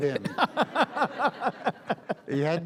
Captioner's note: audience laughs